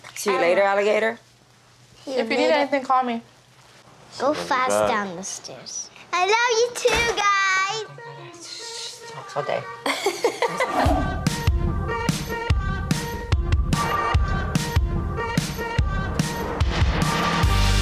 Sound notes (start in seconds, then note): 9.8 woman laughing; 10.9 upbeat funky music